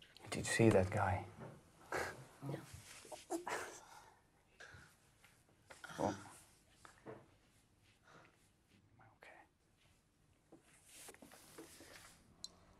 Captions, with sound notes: - Did you see that guy? (murmuring) Okay.